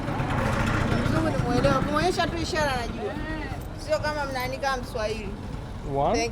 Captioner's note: speaking Swahili